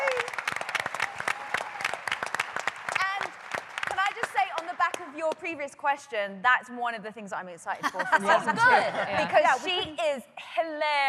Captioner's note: applause